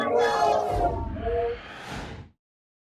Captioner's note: whoosh